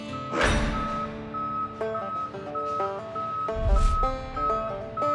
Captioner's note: beeping